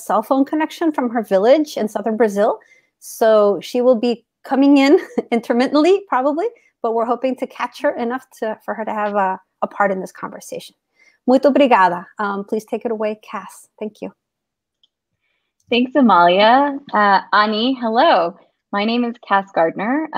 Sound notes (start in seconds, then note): 10.9 speaks portuguese